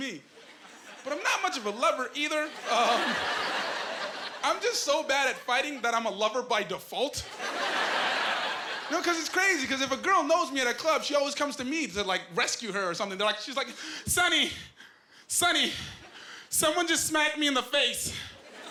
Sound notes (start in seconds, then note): 2.4 laughing; 7.3 laughing